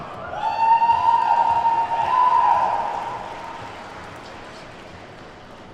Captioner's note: attendees whooping and clapping